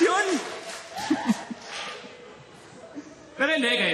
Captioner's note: chuckles